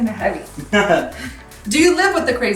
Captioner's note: laughing